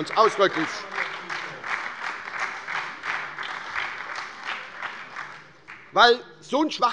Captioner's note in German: Beifall bei der SPD und der LINKEN